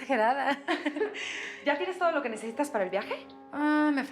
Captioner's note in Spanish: risas